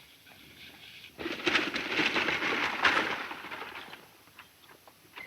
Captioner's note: rattling wagon wheels